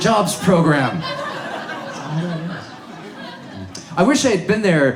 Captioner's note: audience laughs